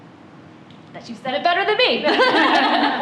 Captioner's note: laughter